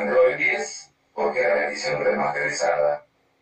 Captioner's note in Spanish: Voz Robotico